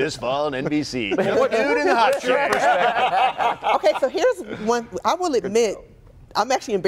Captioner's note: laughter